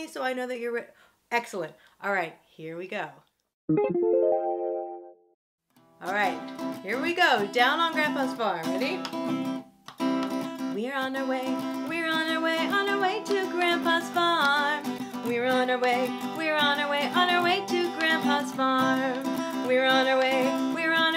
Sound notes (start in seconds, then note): 3.7 electronic tone